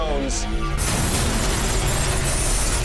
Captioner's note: crackling